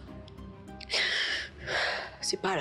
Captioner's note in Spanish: Suspiros